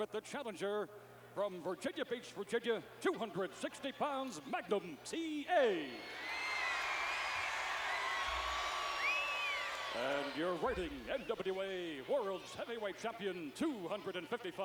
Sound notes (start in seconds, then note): 5.7 applause